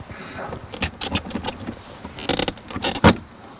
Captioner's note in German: Knarzen